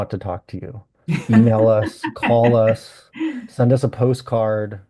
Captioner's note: laughs